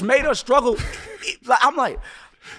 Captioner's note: laughing